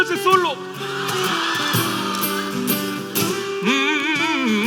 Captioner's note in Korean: 웃음